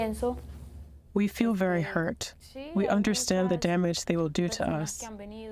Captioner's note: through translator